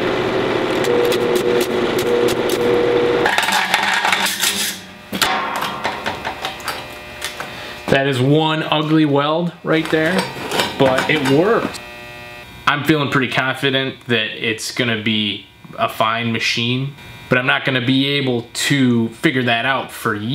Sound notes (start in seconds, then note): 4.5 metal flexing sounds